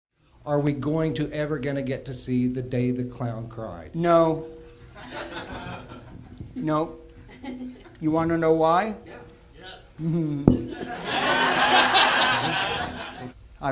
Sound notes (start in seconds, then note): 9.9 Jerry Lewis Chuckles; 10.6 audience laughter